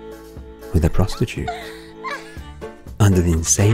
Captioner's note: cackling laugh